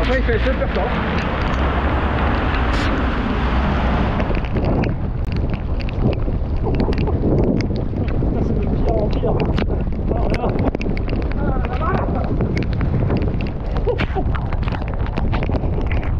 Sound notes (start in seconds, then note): 10.1 lighning